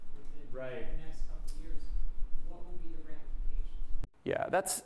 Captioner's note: voiceover